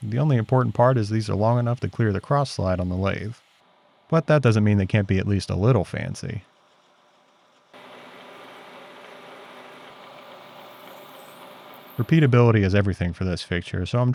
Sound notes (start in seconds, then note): 8.1 machine whirs